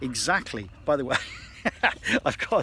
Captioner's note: laughs